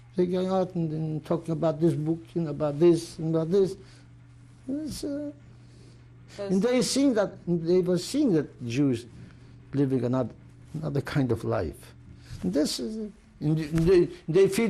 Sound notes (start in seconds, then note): none